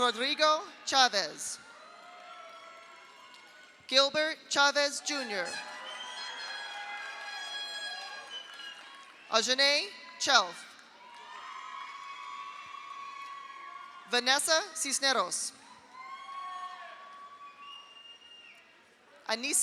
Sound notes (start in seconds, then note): 1.6 audience cheers; 1.7 audience applauds; 5.1 audience cheers; 5.5 audience applauds; 10.9 audience cheers; 11.0 audience applauds; 15.6 audience cheers; 15.9 audience applauds